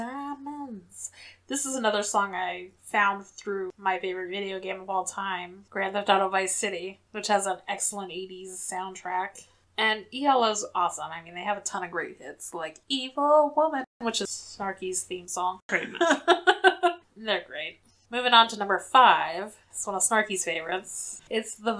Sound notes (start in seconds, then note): 0.0 sings song; 15.9 laughs